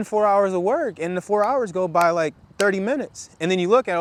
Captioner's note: claps; snaps